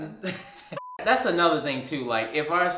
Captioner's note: laughs; beep